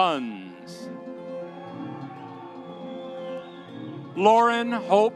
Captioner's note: audience cheering